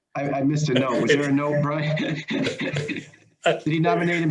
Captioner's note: all laughing